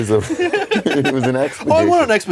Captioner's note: both giggle